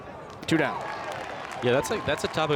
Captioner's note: crowd applauds